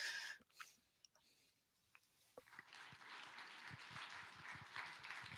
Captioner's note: applause